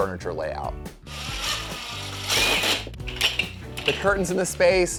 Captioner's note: drill whirring